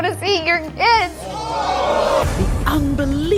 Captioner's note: audience boos